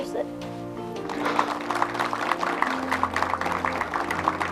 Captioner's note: group clapping